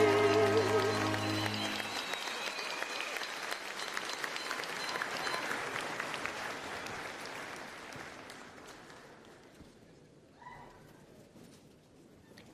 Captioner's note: applause